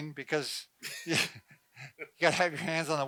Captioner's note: laughs